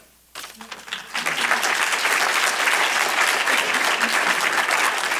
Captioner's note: applause